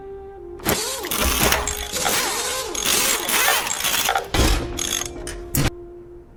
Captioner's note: stock fixing sound effects